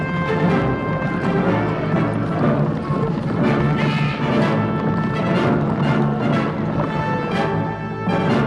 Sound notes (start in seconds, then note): 0.0 horse hooves pounding